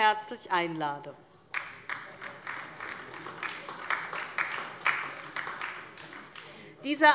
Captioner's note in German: Beifall DIE LINKE